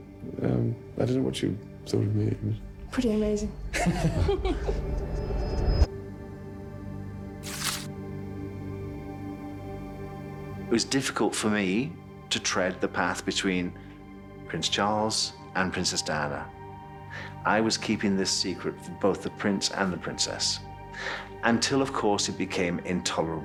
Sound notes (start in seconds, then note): 4.8 laughs; 6.9 serious music; 7.4 photo rips